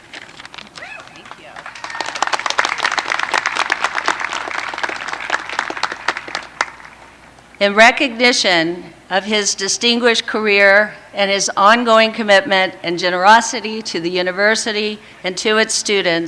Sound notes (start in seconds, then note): 5.6 applause